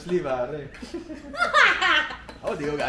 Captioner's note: laughs